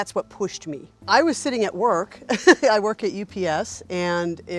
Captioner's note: laughs